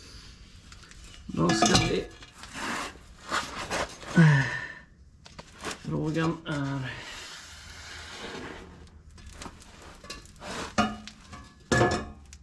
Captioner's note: metal clanking